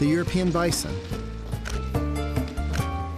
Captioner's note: camera clicking